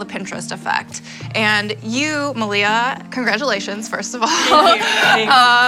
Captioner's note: laughs